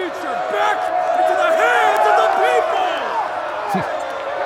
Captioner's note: A mixture of excited shouts and BOOs rise up